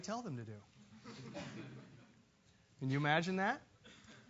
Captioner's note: laugh